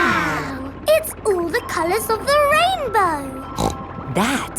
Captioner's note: snorts